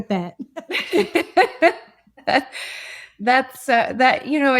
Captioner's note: laugh